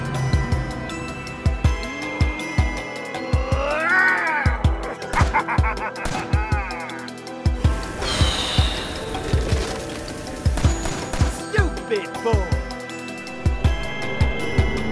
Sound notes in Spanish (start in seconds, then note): 2.7 Rod grita y se ríe